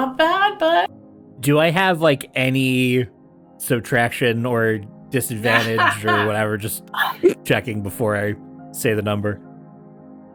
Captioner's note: laughs